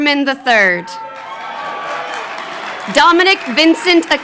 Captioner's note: crowd cheering